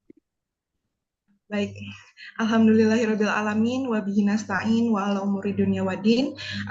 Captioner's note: in Arabic